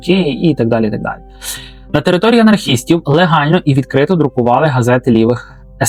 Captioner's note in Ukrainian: сопіння